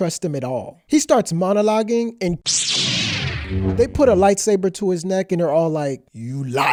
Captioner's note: light saber sound effect